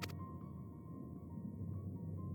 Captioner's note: none